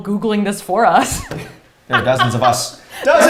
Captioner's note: laughs